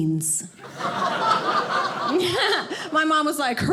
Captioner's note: audience laughing